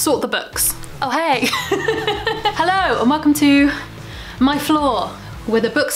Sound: laughs

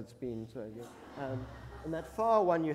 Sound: audience laughter

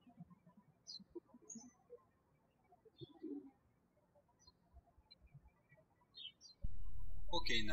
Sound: birds chirping

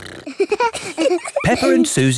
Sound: both blowing raspberry; both giggling

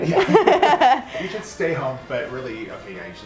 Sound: laughing

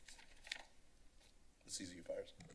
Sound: paper rustling

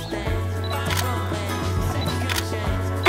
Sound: click click

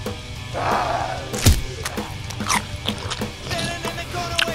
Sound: flesh squelching

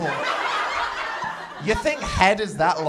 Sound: laughter

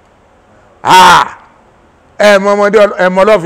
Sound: exclaims

